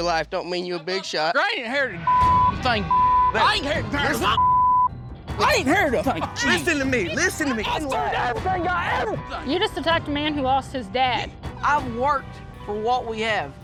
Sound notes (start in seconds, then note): 3.7 swearing; 7.6 angrily shouting